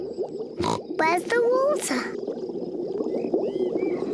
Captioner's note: oinks